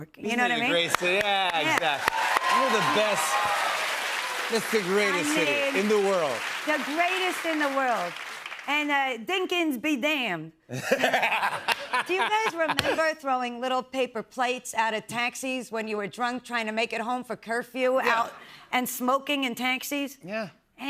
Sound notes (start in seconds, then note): 3.4 cheers and applause; 10.7 laughter